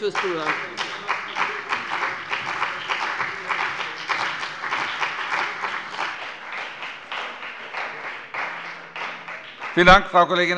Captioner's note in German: Beifall bei dem BÜNDNIS 90/DIE GRÜNEN und der CDU